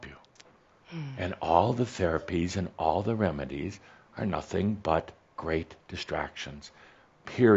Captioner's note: she sighs